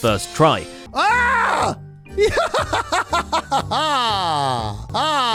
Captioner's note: victorious laugh; laugh repeated